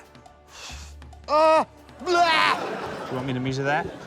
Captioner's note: sighs; laughter